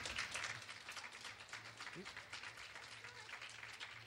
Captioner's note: clapping